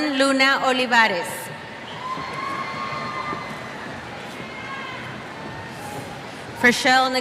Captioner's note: cheers